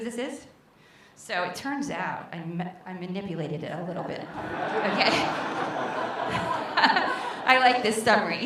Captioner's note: laughter